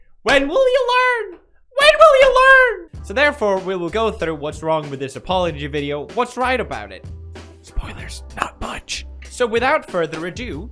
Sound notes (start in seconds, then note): 1.8 higher pitch; 7.7 whispering